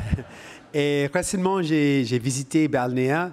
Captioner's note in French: rires